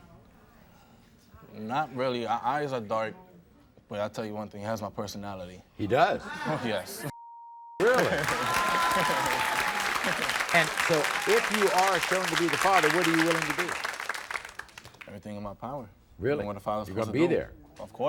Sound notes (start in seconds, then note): 7.8 crowd cheers; 7.8 laughs